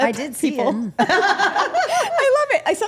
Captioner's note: group laughing